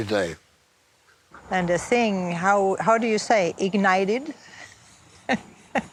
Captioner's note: laughs